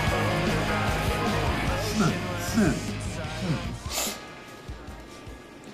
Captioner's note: snorting